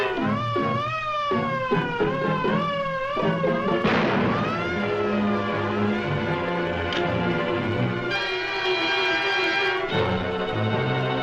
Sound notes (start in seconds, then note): 0.1 sirens wailing; 3.7 gun bangs; 8.3 dramatic music